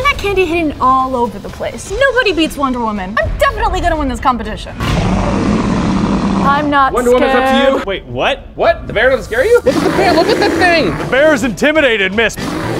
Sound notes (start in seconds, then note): 4.8 roaring